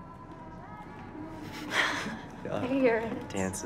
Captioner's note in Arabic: ضحكات خافتة